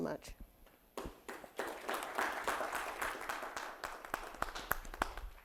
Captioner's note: audience applauding